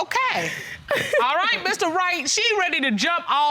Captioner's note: laughs